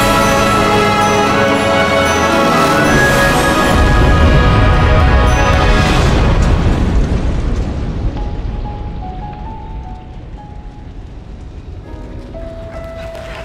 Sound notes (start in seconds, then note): 3.6 boom; 12.7 applause